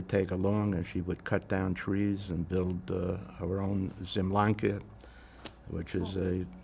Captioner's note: non-english